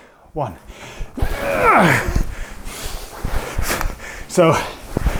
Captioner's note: grunts